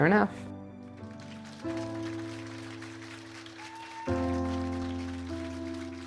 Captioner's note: clapping and cheering